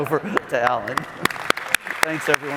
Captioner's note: applause